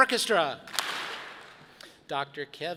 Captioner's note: audience claps